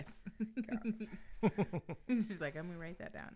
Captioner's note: giggling